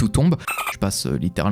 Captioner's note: dolphin noise